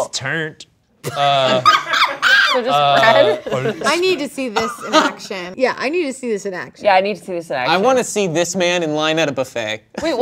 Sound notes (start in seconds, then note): 1.2 laughs